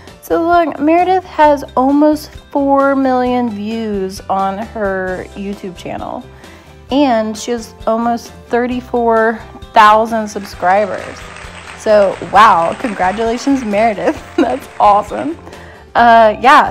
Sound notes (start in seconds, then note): 10.3 applause